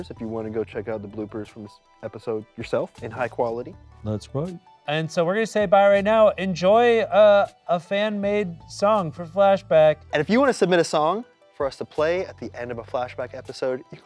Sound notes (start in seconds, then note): none